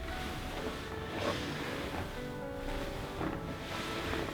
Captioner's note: creaking of fabric, floor, and maybe joints